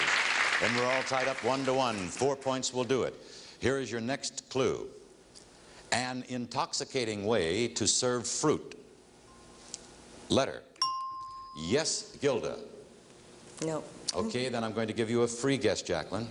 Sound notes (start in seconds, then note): 0.0 audience clapping; 10.8 ringing bell